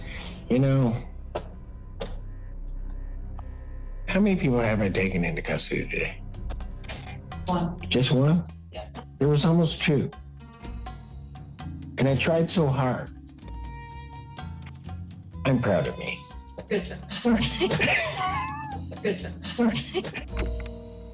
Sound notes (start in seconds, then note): 16.5 chuckles; 20.2 laughs